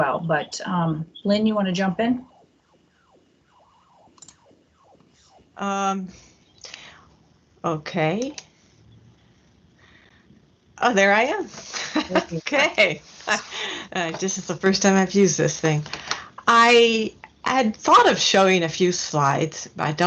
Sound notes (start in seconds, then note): 11.6 chuckles